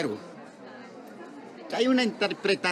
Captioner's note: none